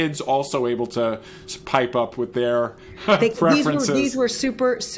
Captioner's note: laughs